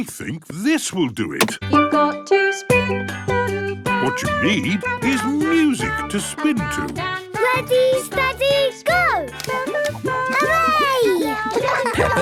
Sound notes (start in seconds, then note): 2.3 radio